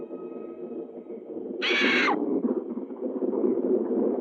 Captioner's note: bird screeching